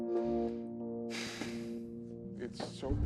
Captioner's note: Kenny sighs